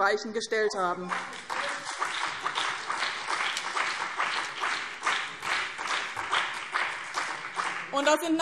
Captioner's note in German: Beifall BÜNDNIS 90/DIE GRÜNEN und CDU - Zuruf AfD